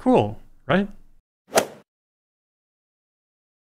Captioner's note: swoosh